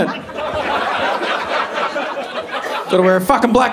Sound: audience laughing

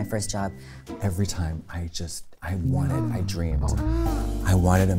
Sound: woman moans

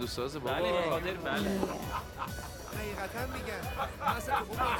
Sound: foreign language

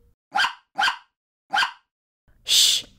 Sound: bark! Bark! Bark!

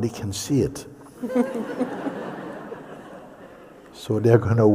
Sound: laughter

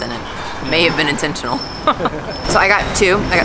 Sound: laughs

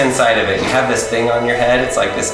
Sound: guffaws

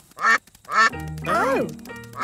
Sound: quacking

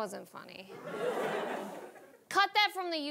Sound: audience laughing

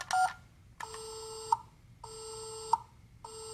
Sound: beeping; dial tone

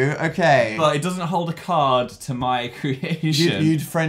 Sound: laughs

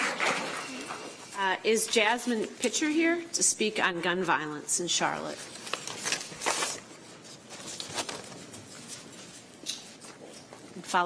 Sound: applause

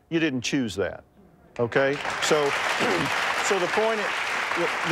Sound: audience applauding

